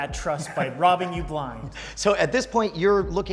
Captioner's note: laughs